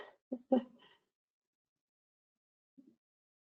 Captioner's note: chuckles